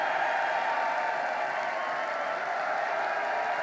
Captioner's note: applause